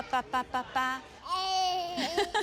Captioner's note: babbles; laughs